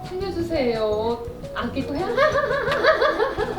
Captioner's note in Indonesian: tertawa